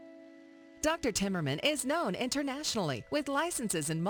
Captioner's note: voiceover